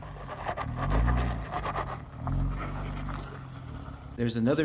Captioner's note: car wheels rustle